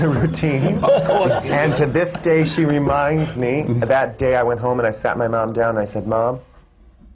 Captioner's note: laughter